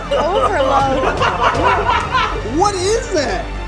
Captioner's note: laughter; coughing